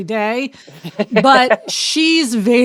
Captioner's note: laughing